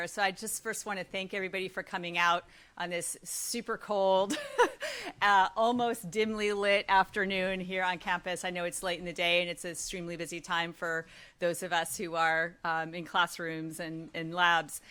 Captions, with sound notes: so I just first want to thank everybody for coming out on this super cold, [LAUGHS] almost dimly-lit afternoon here on campus. I know it's late in the day, and it's an extremely busy time for those of us who are in classrooms and labs,